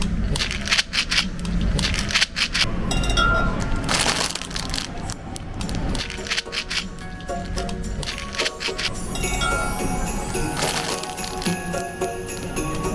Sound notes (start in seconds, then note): 1.9 rattle rattle rattle; 2.9 bottle clinking; 3.8 plastic crinkling; 7.8 rattle rattle rattle; 9.1 bottle clinking; 10.5 plastic crinkling